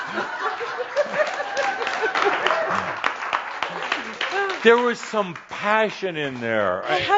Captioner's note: some laughter and applause